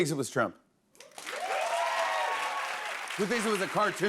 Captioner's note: cheers and applause